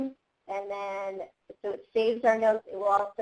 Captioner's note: none